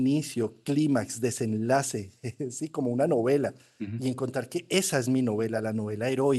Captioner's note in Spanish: carraspeo